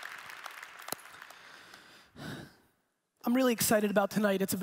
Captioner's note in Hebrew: מתנשם בכבדות